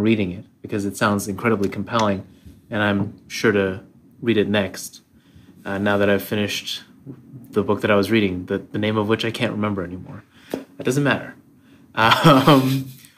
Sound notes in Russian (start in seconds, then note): 12.0 смеется